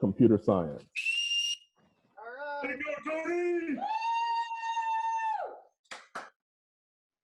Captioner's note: cheers